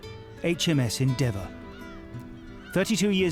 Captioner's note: birds squealing